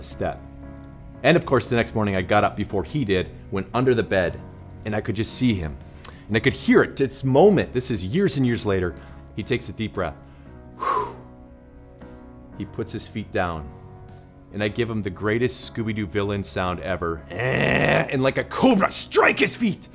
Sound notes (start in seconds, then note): 10.2 deep breath; 17.3 groan